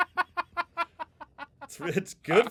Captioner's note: laughing